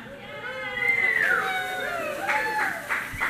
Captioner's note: cheering from audience